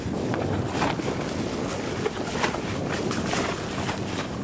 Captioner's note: wind blowing